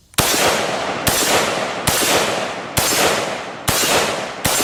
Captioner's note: fires successive shots